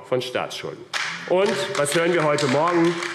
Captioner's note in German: Beifall AfD